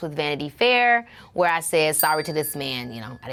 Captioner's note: bell dings